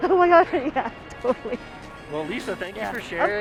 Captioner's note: laughing